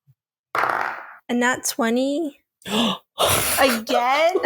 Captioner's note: gasps